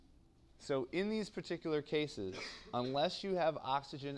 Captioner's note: cough